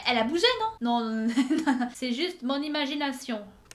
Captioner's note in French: Rires